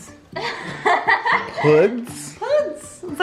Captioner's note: laughs